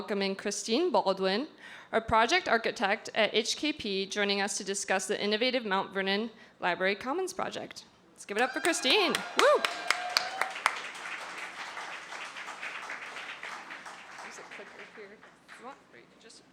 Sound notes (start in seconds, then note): 8.4 applause